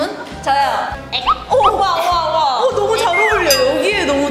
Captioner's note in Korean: 왁자지껄